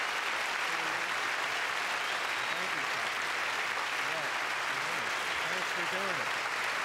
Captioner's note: applause